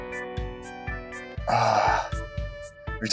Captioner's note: strange exhasperated wescountry groan